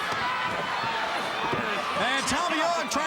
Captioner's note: crowd cheering